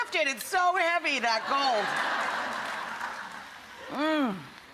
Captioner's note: audience laughs